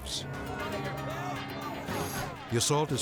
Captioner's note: group chattering loudly